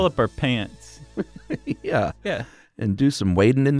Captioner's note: laughs